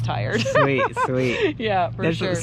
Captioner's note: laughs